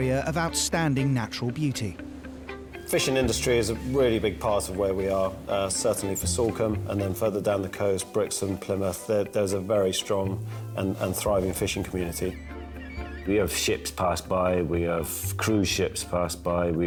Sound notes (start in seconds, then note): 12.4 seagulls squawking